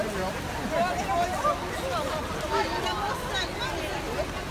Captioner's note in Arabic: الحشد الثرثرة